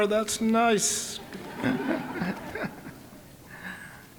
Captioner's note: all laughing